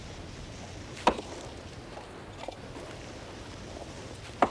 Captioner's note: ax thudding